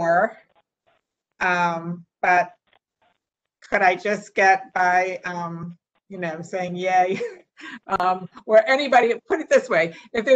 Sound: laughter

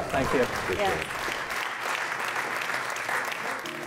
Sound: applause

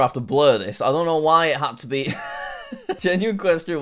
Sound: laughs

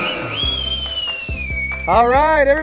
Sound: lots of whistling

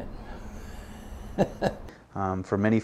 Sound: laughing

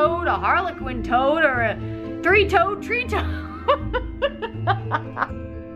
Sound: laughs

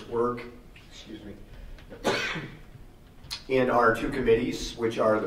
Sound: coughs

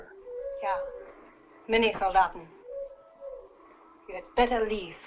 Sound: speaking in a foreign language

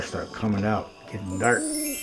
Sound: twinkling sounds

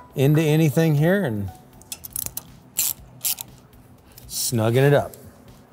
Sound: tool clicking

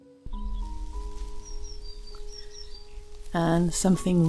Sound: leaves rustling gently

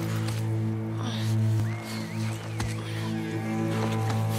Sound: whistles!!!

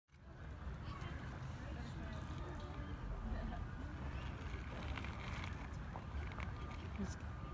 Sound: people talking in background, no notable dialogue throughout

